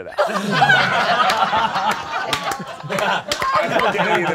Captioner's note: all laughing